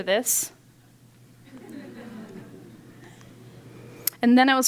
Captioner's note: laughter